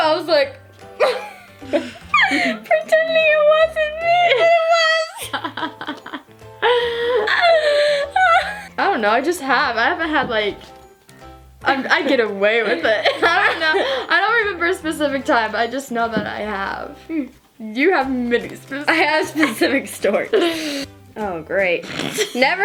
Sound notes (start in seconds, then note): 5.1 laugh